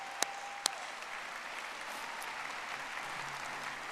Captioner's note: audience applauding